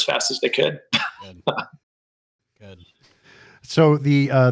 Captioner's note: laughs